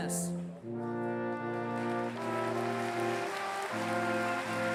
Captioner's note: applause